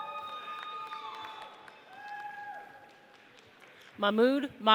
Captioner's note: audience cheers